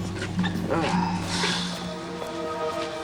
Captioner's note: sighs